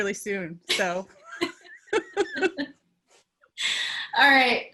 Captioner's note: laugh